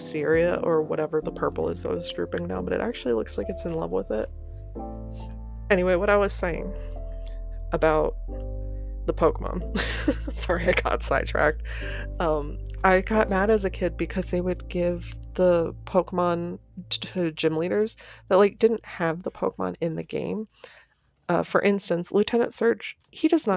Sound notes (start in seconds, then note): 9.7 laughter